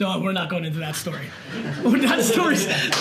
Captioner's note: group laughter